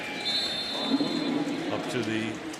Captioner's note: whistle